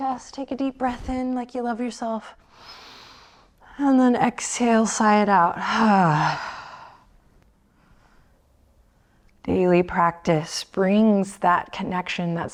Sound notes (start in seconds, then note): 5.7 sighs